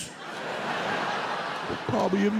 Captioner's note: audience laughs